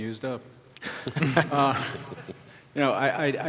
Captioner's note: laughter